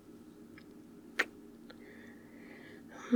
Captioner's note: kiss